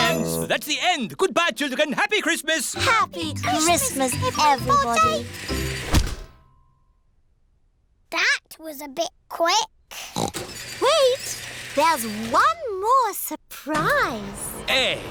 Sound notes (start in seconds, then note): 10.0 oinks